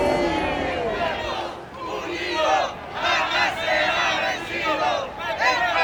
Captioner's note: protestors chanting in Spanish